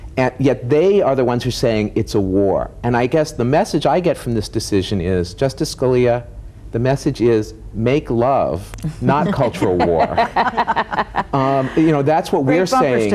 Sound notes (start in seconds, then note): 9.0 laughing